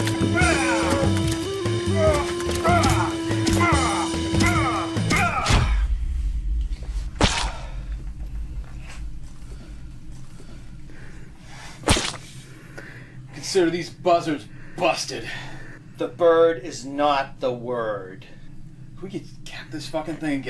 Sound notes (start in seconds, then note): 3.0 shoe thumping; 7.7 bird squishing